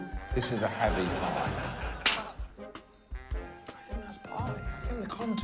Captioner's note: laughter